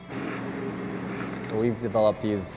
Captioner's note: person slurping